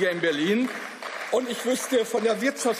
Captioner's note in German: Beifall